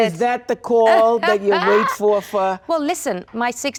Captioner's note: Thandie laughs